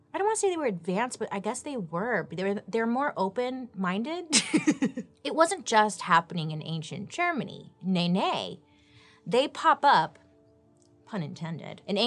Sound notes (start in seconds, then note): 4.5 laughs